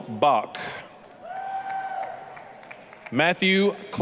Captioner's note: applause, cheering